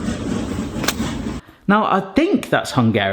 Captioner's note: packets rattle